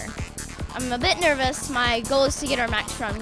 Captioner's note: voiceover